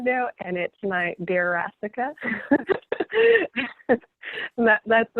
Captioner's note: laughing